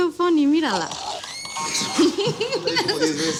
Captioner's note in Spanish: Grito; Risas